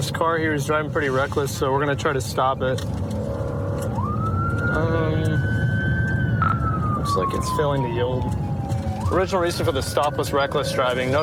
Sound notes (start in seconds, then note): 3.8 siren wailing